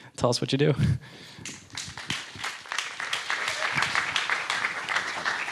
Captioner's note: audience applauding